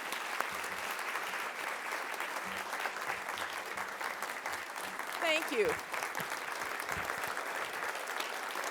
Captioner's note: applause